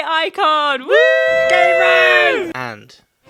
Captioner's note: whooping